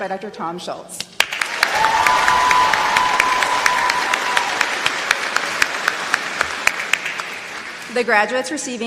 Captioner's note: applause